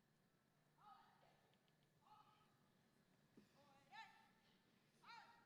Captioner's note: person yelling commands